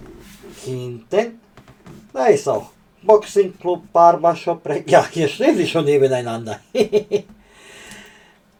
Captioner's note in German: japst